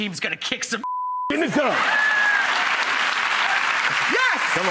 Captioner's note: cheering and applause